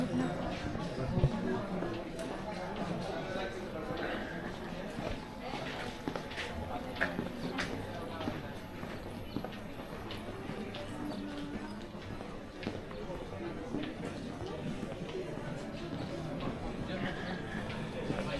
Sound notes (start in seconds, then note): 13.0 people chattering